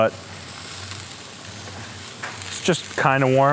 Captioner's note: food sizzling